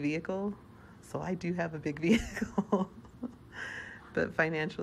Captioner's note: laughing